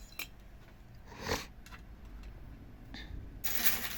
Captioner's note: snort